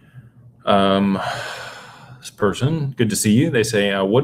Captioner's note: sighs and gasps